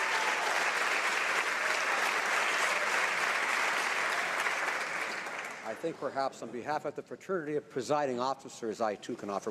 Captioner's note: some Applause